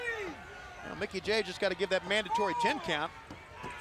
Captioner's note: crowd chatter